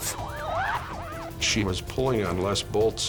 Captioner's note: screaming